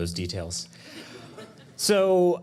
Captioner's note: audience laughing